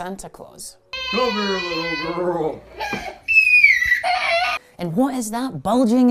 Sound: girl crying

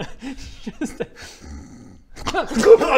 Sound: snore

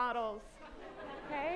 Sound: laughter

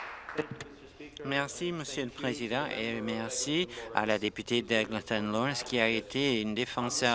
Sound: applause

